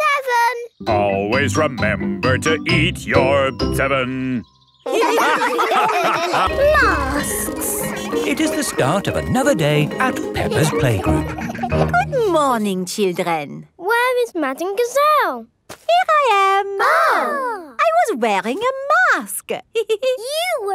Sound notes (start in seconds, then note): 6.4 bell ringing; 16.7 exclaiming; 19.8 giggles